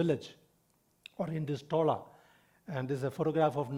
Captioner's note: speaking in foreign language